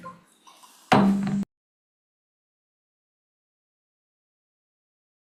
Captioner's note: gavel clanks